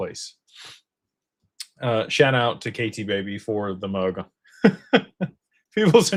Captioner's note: snorts